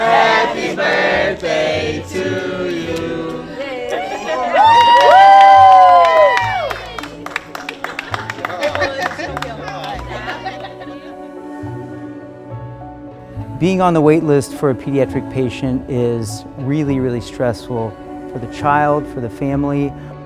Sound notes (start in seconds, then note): 3.6 crowd cheering; 3.8 gentle music